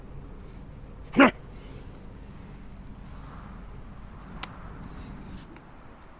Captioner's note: Dogmouth grunts angrily